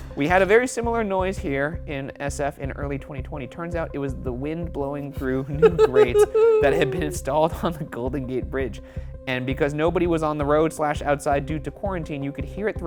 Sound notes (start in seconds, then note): 5.2 laughing